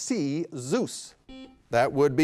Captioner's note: beep